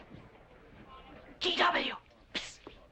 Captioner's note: whispering